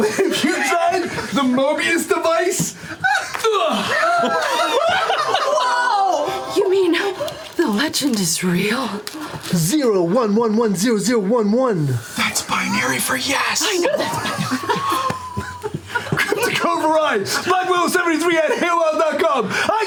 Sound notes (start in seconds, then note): 3.5 gasping; 3.5 grunting; 3.8 laughter